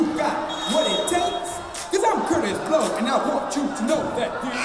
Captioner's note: whistle blowing